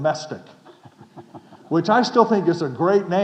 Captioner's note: chuckling